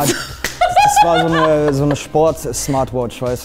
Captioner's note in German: Lachen